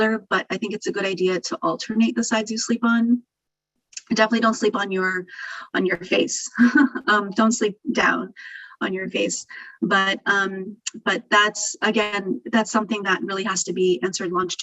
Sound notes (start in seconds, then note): 6.5 laughing